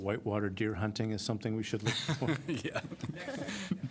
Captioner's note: laughter